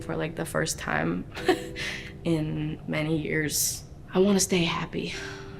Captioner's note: chuckles